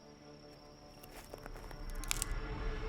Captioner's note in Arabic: موسيقى متوترة; نقرات بندقية